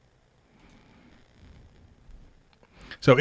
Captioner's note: mouse clicks